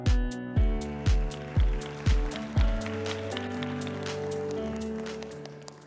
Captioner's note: applause